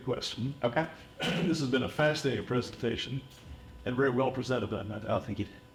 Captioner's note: cough